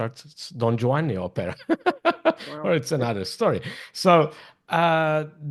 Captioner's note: laughs